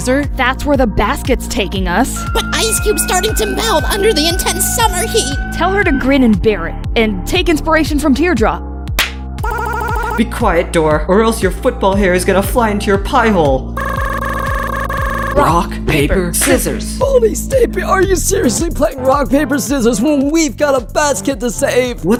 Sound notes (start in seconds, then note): 9.0 slap